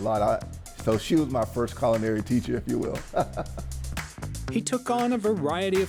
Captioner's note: laughs